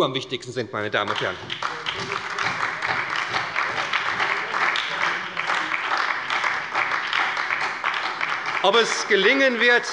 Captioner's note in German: Beifall bei der SPD